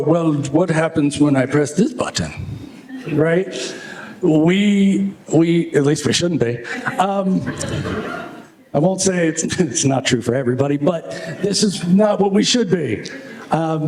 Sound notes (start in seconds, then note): 6.6 laughter